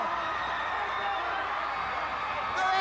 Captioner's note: crowd cheering